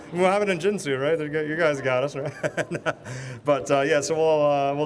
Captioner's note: laughs